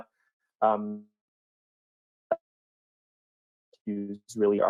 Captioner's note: no sound